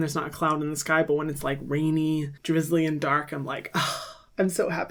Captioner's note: sighs